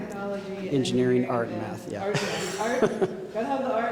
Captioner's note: chuckling